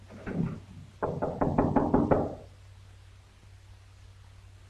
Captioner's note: knocks